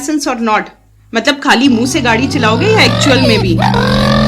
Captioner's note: haha